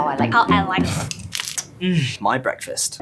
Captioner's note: shluurp; cracks; blows kiss